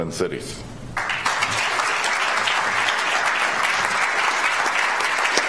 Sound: audience applauds

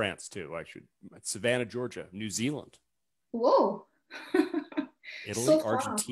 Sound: chuckles

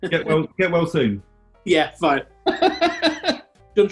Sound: laughing

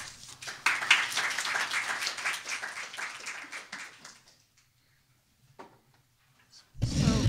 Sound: applause

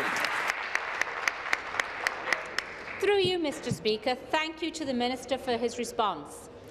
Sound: applause

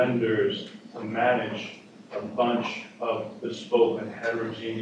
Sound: speaking far from microphone

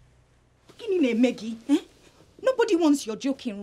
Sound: speaking in foreign language

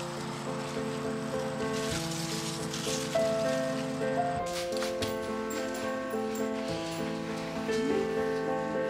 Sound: leaves rustling; soft classical music

